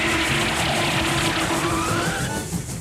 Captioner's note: train horn blowing; screeching